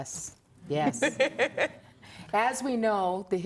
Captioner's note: laughing